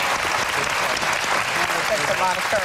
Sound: applause

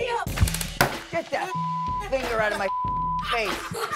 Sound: beep; laughs

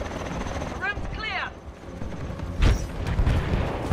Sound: radio

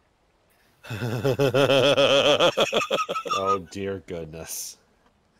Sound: laughter

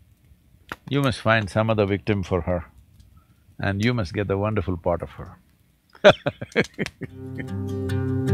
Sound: laughs

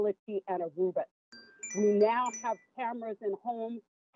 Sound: chime

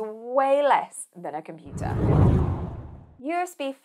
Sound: screen whooshing

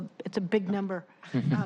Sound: laughter

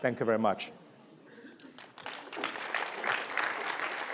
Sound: applause

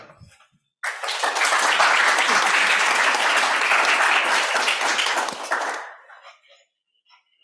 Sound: applause

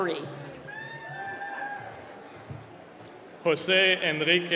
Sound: cheering

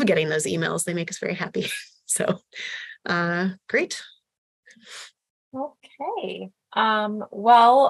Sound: laughter

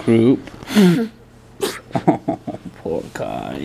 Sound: laughs

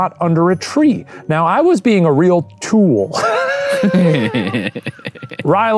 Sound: both laughing

